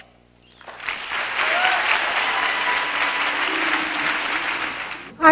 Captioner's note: applause